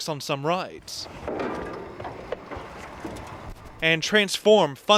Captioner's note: metallic clang